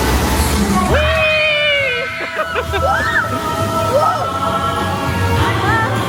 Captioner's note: laughing